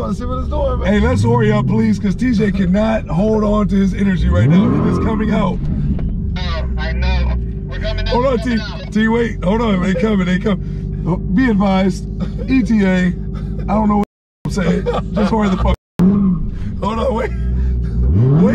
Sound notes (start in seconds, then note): 4.9 car engine revving; 6.7 man On radio; 14.5 laughing; 16.0 car engine revving